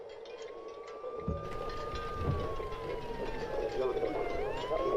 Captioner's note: siren wailing